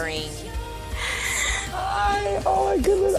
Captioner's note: gasps